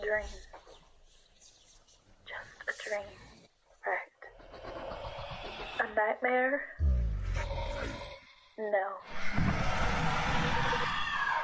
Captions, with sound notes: It's just a dream... ...just a dream, right? [shaky monstrous breathing] A nightmare? [growl] No... [roar]